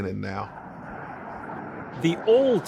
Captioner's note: distant jet engine